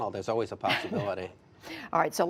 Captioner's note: laughter